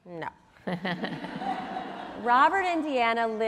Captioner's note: audience laughs